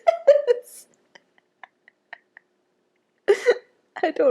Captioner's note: cackles